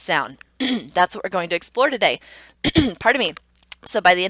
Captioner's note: clearing throat; clearing throat